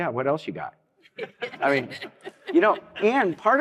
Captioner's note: laughter